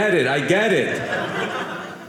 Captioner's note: audience laughing